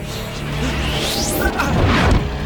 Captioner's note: gasps